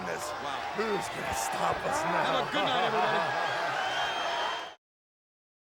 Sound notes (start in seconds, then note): 1.7 laughing; 3.5 crowd cheering